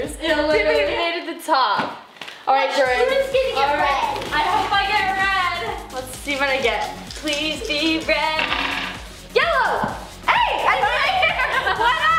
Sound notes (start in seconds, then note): 8.5 jangling; 10.8 laughing